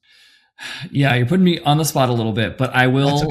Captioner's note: sighs